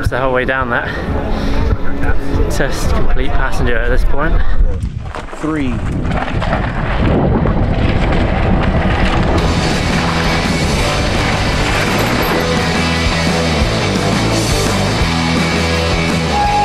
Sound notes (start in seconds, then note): 5.7 air whooshing; 9.4 uplifting music; 13.6 crowd; 16.4 uplifting music